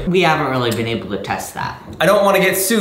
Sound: none

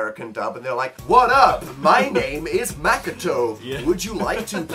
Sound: on-spot annoying beach guy accent

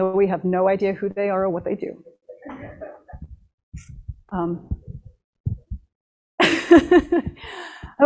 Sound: laughter

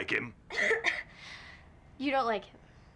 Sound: loud coughing

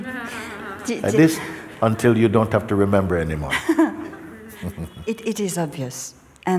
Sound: laughter

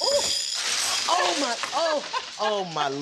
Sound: laughter

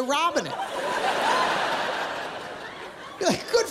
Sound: laughter

